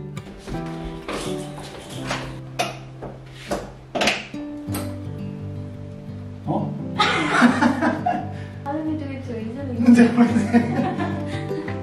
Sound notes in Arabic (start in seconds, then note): 7.0 يضحك غير مصدق